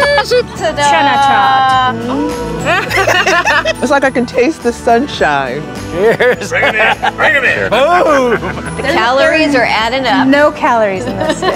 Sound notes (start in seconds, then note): 2.7 everyone laughing